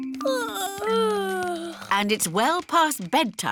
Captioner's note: yawning